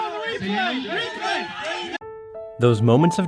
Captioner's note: players shouting